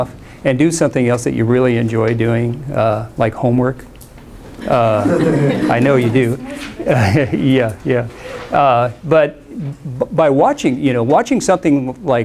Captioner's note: laughter